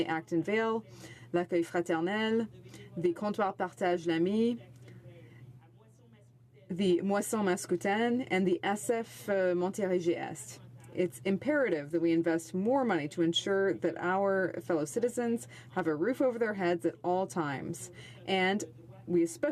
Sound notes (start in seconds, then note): 8.3 speaking French